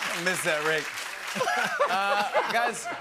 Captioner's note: laughter